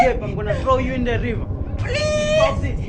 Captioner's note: muffled Screams